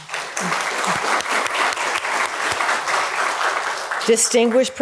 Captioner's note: applause